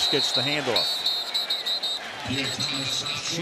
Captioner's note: whistle blowing